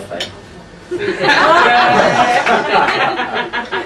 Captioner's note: laughing